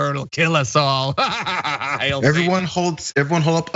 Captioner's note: laugh